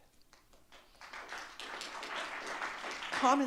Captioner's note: audience clapping